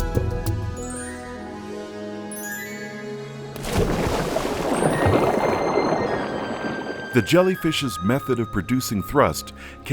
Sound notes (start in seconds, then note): 3.5 water splashing; 5.0 gentle music